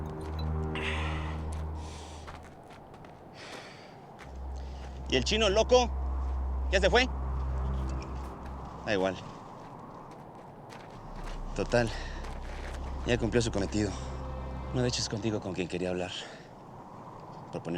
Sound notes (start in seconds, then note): 5.1 speaking spanish